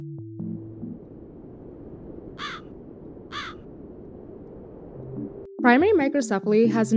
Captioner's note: wind blowing, crows chirping